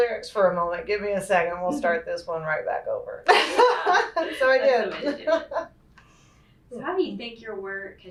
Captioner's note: laughs